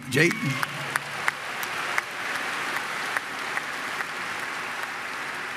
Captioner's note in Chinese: Applause; 掌聲